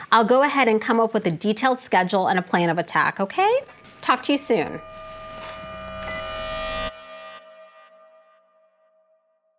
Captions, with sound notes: I'll go ahead and come up with a detailed schedule and a plan of attack, okay? Talk to you soon. (dramatic suspenseful music) (telephone beeps)